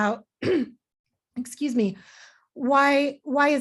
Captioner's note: clears throat